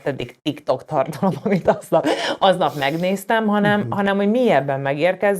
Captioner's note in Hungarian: nevetés